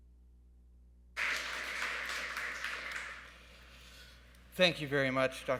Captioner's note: audience clapping